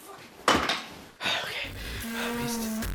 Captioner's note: exhale